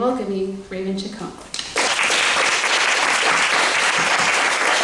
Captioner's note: applause